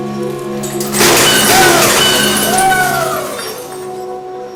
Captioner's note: glass shatters